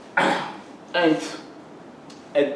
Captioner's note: clears throat